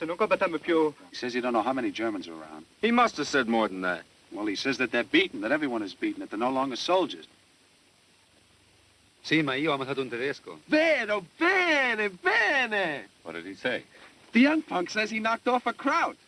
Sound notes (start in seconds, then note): 9.2 speaking italian